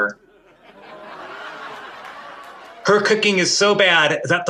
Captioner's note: audience laughing